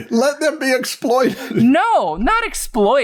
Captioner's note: laughter